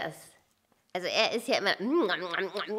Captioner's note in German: Essgeräusche